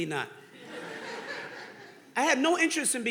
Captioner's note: audience laughing